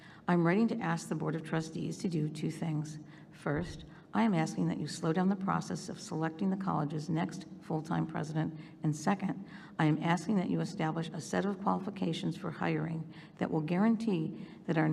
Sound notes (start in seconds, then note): none